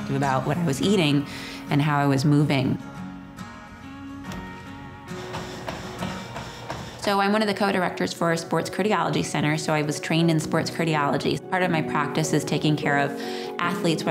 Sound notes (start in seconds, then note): 2.8 guitar music; 5.1 feet thumping